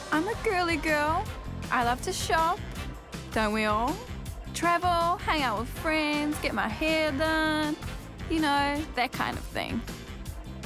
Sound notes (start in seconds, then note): none